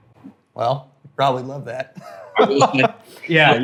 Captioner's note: laughs